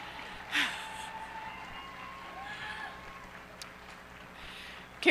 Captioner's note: cheers and applause